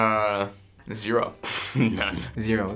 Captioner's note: snorts